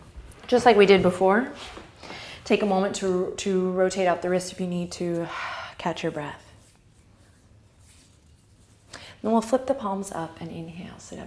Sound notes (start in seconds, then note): 5.3 exhale